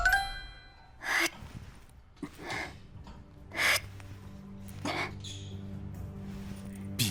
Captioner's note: huff